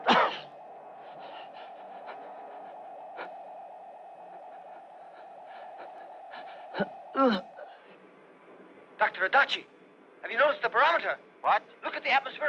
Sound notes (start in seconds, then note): 0.0 man coughs; 7.0 man grunts